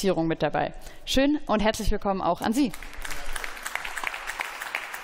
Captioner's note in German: Beifall